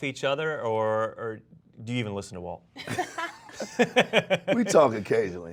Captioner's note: laughs